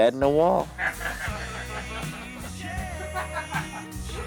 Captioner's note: laughing